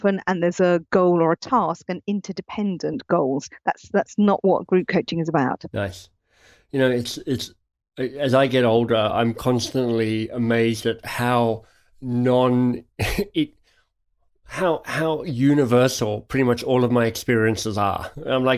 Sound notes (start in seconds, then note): 13.6 chuckles